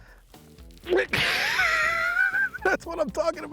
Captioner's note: grunt